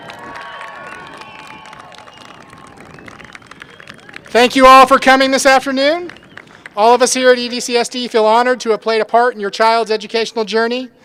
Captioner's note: applause